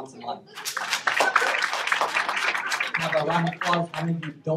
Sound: applause

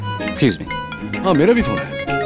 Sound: cell phone ringing

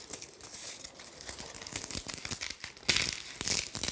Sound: crackling of the reeds

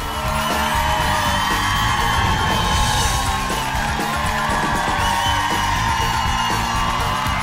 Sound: audience cheering; upbeat music continues

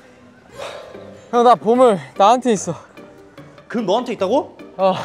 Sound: exhaling sharply out of the blue

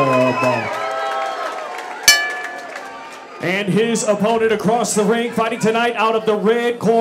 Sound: bell ring

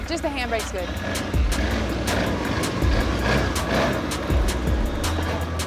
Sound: four-wheelers roaring

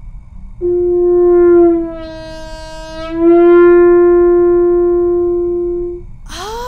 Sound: vooooooorrEHHHHHHHHHHHrrroooooo

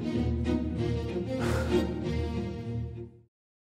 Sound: springy instrumental music; heavy sigh

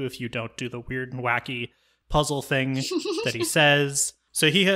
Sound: laughs

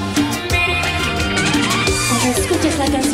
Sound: in spanish

